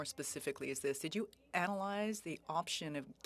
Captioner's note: speaking French